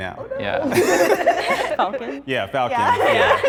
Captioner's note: laughter